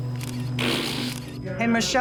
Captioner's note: Katya sputters